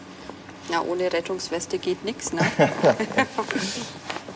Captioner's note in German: lacht